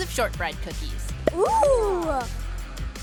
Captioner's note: gasping